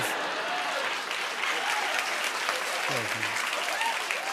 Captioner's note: laughter and applause